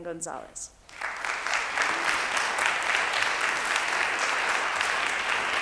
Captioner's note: audience applauds